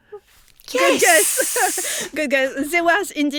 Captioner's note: laughs